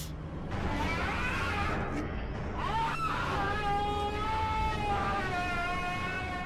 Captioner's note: play scream